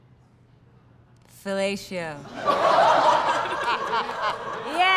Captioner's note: laughter